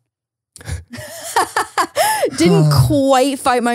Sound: both laughing

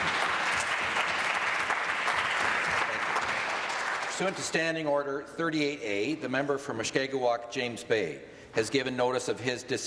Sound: applause

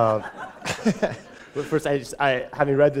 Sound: chuckle

